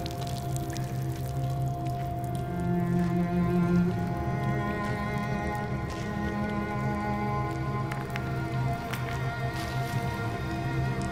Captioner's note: water dripping